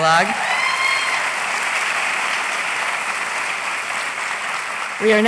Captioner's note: applause